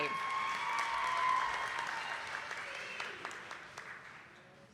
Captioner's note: attendees clapping